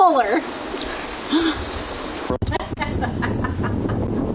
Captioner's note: laughter